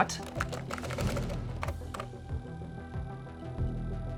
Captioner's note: keys tapping